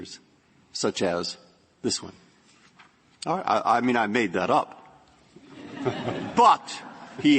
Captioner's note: laughter